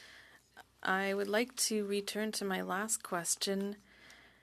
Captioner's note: speaking French